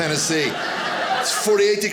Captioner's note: audience laughing